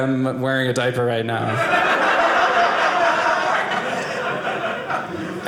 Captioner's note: audience laughing